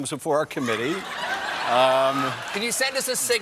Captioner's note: laughter